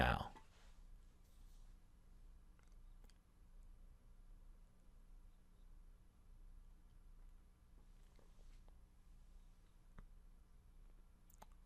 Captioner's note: pause